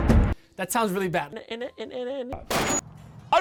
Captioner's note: is left a pure stuttuttuttuttuttuttuttuttutterererererererer